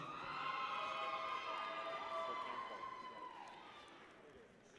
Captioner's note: people cheer